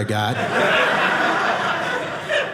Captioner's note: audience laughing